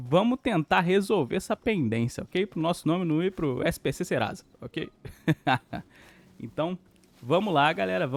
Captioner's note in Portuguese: risadas